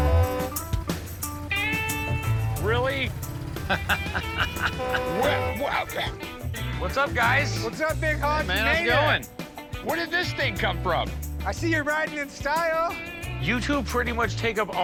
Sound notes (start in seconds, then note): 0.2 rock music; 2.4 laughing; 4.1 horn blares; 5.4 stuttering